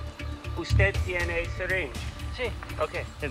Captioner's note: Spanish language